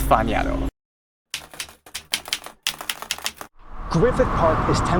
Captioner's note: keyboard keys clicking